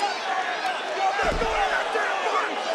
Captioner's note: crowd roars